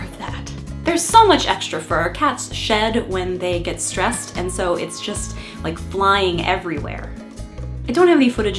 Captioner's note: meow!